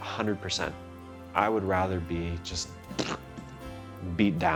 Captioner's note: blowing raspberries